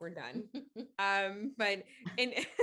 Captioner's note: chuckling